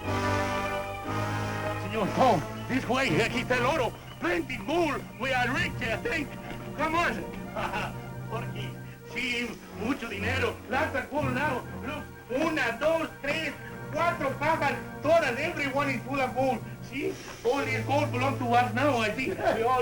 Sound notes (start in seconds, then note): 3.3 non-english speech; 7.2 laughs; 8.9 non-english speech